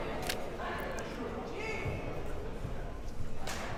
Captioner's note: crowd murmuring